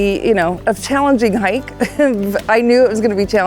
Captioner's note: chuckles